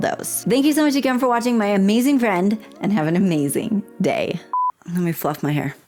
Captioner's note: blooper beep